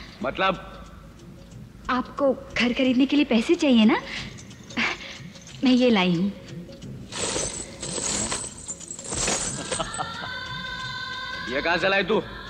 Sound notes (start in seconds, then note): 9.5 laughs